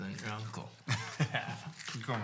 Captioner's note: laughing